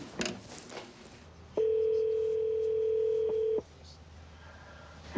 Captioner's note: telefone tocando